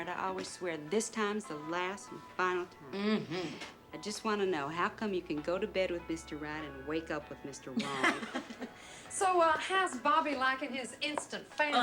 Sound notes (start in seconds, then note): 7.8 laughs